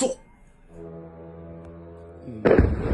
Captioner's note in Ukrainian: гул безпілотника; вибух